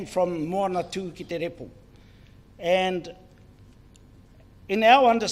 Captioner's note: speaks in foreign language